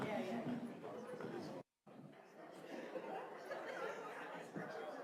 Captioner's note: students chattering